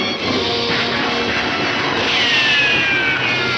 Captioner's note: gunshots